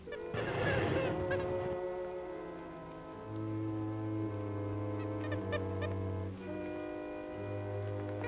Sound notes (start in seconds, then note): 0.7 snake hissing; 2.2 Joe chattering; 2.2 mysterious music